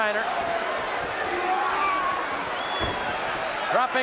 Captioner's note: audience cheering